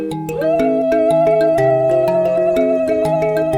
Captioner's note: ululating